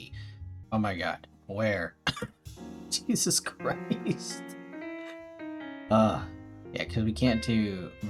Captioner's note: chuckling, then tired sigh